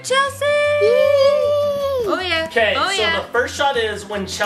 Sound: indistinct chanting

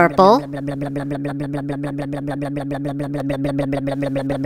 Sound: blub blub blub blub blub blub blub

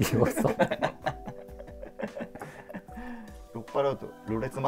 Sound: laughing

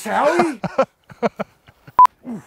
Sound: laughing

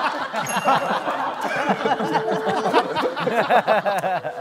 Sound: laughing

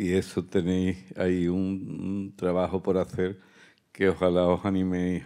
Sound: speaking in Spanish

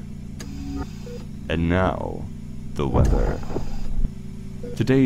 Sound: mechanical ambiance

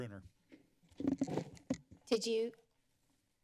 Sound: mic sounds

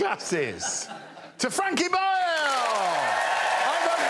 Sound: audience cheers and claps

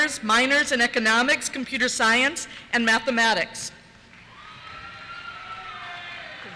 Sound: cheers

